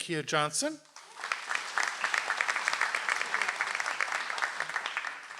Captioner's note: audience applauds